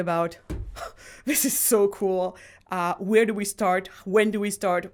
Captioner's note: sighs